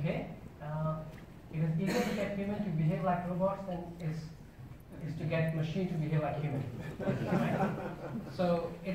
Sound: audience laugh

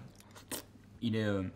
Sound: slurps

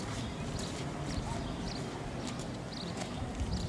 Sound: birds tweet

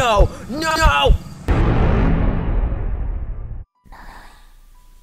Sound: Suspenseful Sound..not Skeppy

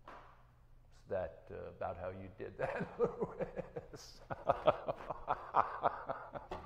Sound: laughing

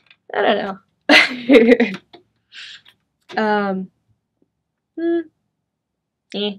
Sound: chuckles

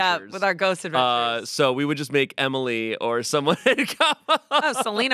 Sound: laughs

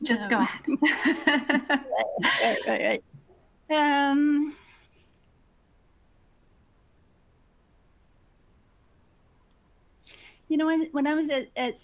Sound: laughs

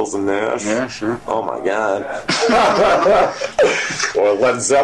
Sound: both laugh

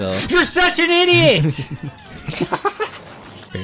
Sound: yelling to Hilda; laughs

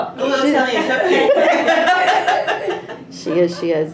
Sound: laughing

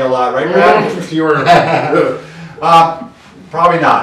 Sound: both laugh

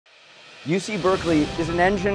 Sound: air whoosh

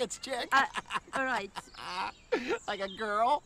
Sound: Mr. Chip laughs

